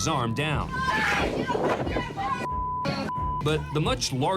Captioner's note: overlapping shouting